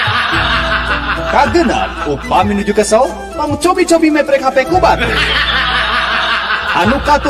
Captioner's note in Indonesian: tertawa; tertawa